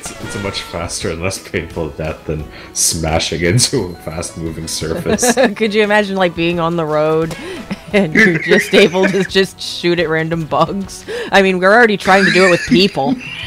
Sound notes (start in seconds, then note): 7.3 laughs